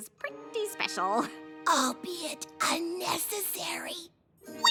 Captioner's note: loud whisper